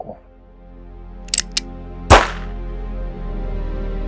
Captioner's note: gunshot sound